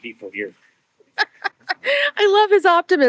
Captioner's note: laughing